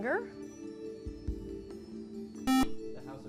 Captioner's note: buzzer